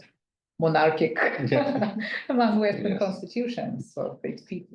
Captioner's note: laughs